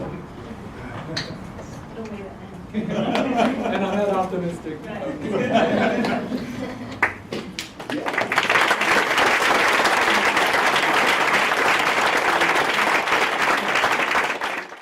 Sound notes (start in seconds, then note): 0.5 laugh; 5.0 applause; 5.2 laugh